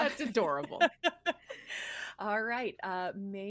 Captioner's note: person laughing